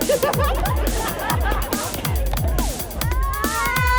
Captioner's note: laughing